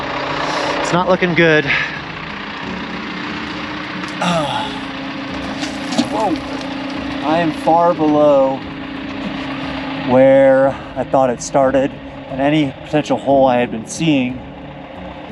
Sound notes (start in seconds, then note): 4.2 sighs